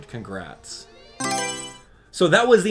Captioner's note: Mario Selection Sound